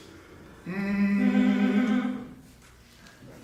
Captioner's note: humming